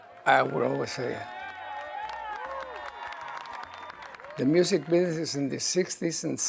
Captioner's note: cheering